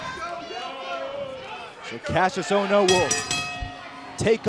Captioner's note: crowd cheering